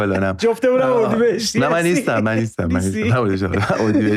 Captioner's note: laughs